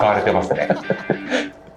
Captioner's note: laughs